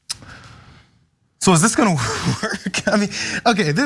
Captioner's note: laugh